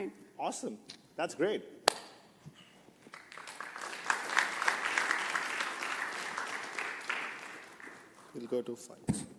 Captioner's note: applause